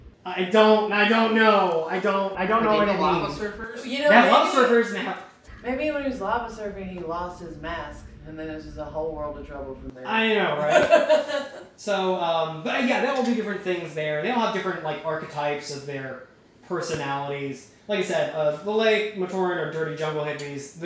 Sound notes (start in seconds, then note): 10.6 chuckling